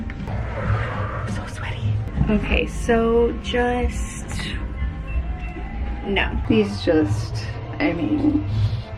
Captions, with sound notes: (exhales) So sweaty. Okay, so just... No. These just. I mean...